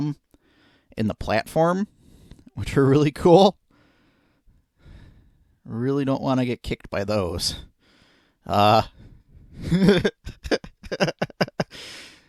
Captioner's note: laughing